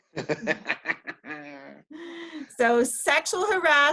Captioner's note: both laugh